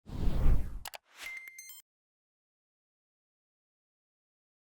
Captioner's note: logo whooshing and clicking